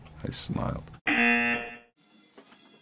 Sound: rejection buzzer

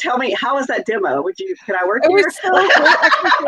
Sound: laughs

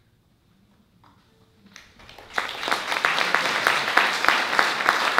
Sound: applause

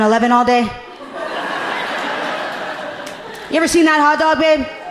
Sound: audience laughing amusingly

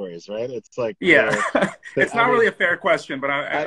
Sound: laughs

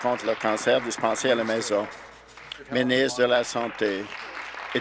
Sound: applause

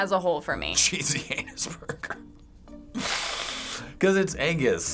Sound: laughing

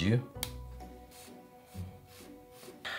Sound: marker writing

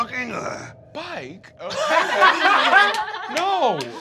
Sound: laughing

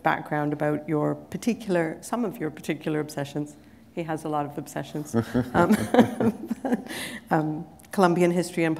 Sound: laughter

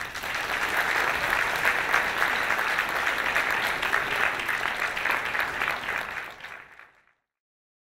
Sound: applause

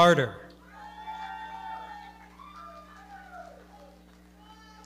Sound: audience cheering

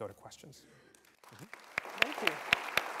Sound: applause

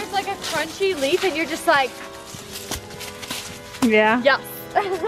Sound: stomps loudly

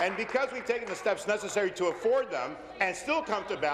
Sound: applause

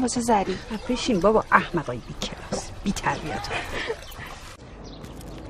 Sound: laughing

